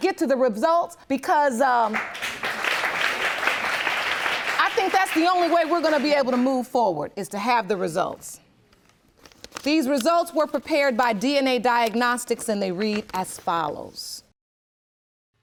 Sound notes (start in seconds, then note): 3.5 applause